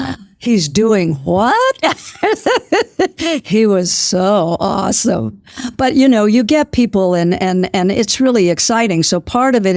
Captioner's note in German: Lacht